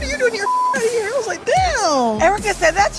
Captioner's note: beep